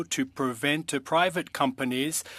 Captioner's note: speaking French